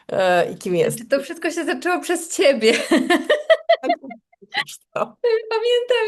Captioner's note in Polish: śmiech